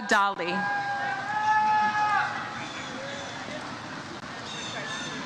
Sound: audience cheers

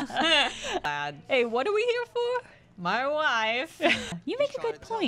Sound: laughter; Borat voice

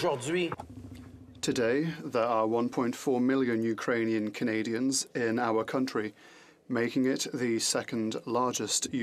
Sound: speaking French

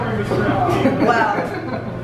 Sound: chuckling

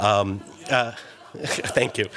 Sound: laughter

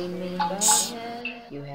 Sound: hiss

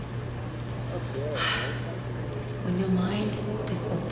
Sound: sigh

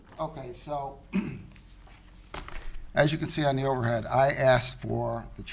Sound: clears throat

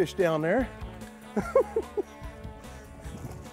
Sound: laughs

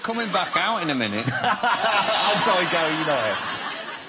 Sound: laughs

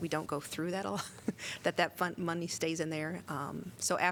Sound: laughter

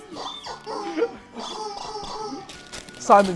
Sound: laughs; toy squeaking

